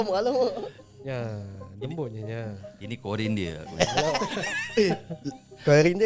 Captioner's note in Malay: ketawa